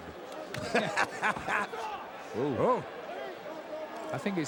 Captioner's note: Jim laughing